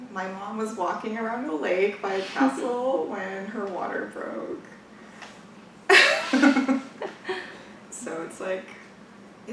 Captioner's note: laughs